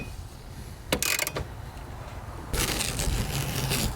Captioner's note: ratchet clicking; tape peeling